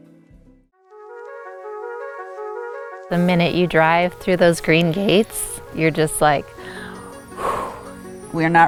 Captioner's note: deep breath out